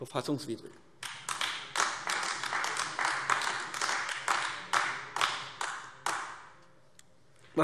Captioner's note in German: Beifall AfD